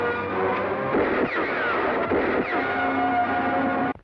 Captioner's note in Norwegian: Peeow Peeow plink poff